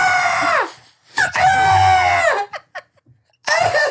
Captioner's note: person laughing